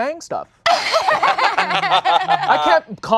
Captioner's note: laughing